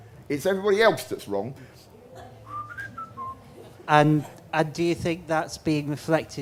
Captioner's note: whistles